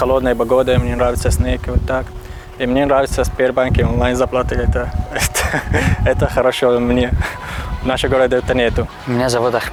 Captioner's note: is laughing